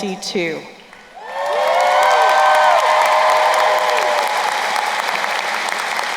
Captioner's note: crowd cheering and applauding